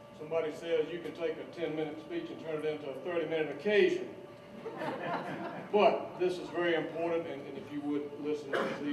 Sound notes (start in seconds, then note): 4.5 laughter